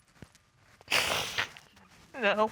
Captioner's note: sobs